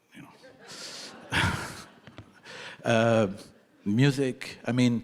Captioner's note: audience laughing